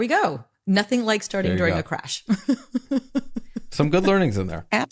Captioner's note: laughs